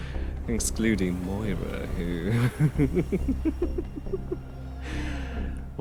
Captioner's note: laughs